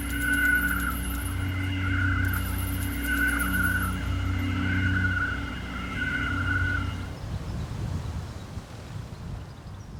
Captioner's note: birds chirping